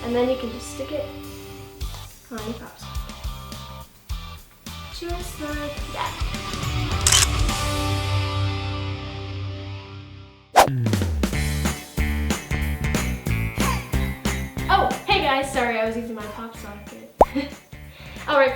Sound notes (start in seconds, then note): 7.0 camera clicking; 17.8 laughs